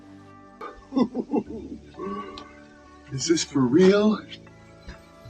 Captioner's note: laughing